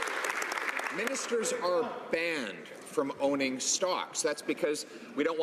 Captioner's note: some Applause